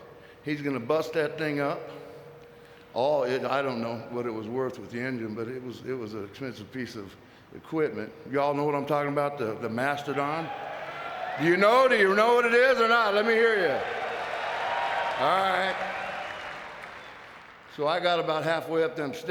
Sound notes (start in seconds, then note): 10.3 audience cheering; 13.4 audience cheering